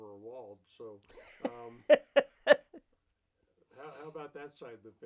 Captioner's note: laughs